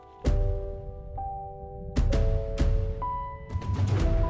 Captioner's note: wind blowing